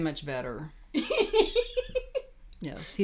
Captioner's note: laughing